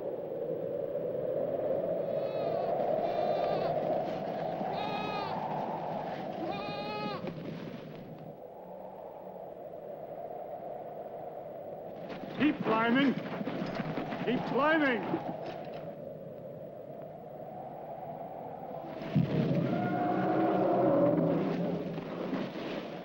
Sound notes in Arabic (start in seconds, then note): 0.0 تهب رياح قوية; 1.7 نباح الأغنام; 7.9 تهب الرياح; 15.4 تهب الرياح; 19.3 الفيل يئن بصوت عالي